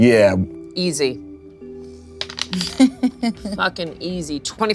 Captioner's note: dice rolling